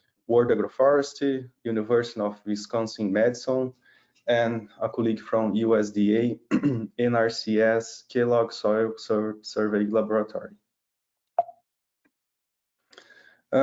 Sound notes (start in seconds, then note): 6.4 clears throat